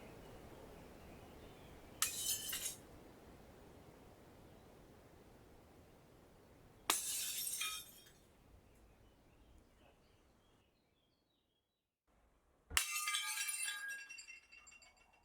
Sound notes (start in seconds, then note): 1.4 glass continues breaking